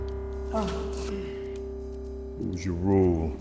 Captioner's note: Jimmy groans